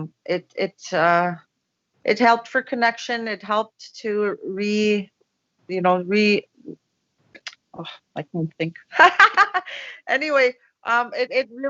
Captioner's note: laughs